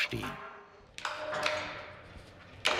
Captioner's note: clacking